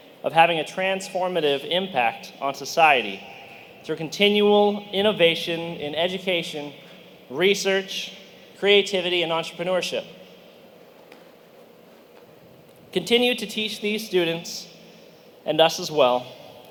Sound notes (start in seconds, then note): none